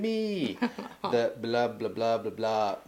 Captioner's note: laughing